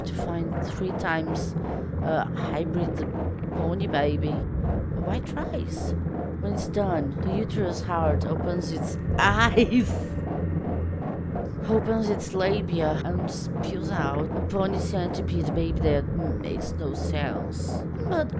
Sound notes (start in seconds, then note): 9.1 laughs